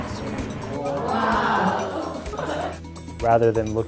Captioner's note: laughing